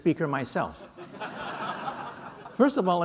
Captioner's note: laughter